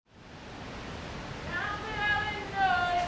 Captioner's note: water gushing; singing in a foreign language